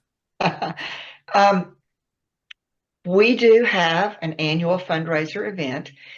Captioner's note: laughs